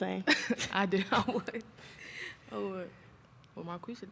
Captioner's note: laughs